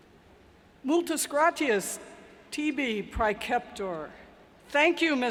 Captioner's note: speaking foreign language